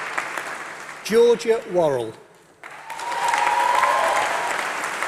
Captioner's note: applause